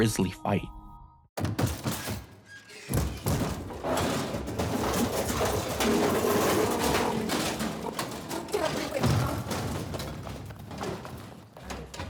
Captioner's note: metal scraping and voice glitches